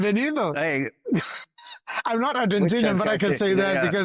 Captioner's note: laughs